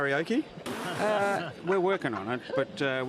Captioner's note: laughing